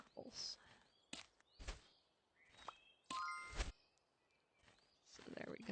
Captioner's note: sound effects